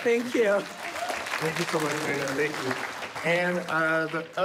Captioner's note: audience clapping